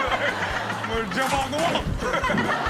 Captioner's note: all laugh